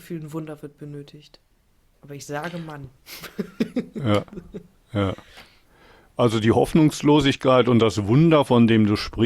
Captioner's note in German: gelächter